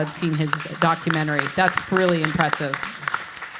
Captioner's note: audience applauds